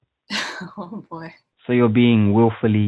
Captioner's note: laughs